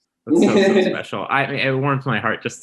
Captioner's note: Symone giggles